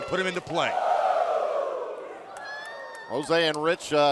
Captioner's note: crowd cheering